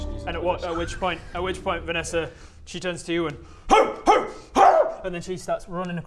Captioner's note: barks